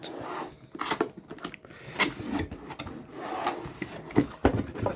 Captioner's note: power supply box opening sound